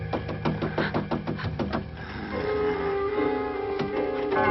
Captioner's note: door rattling